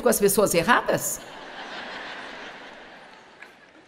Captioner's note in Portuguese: audiência ri